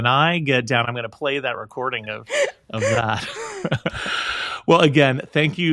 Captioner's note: more laughing